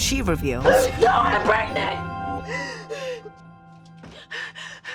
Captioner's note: gasping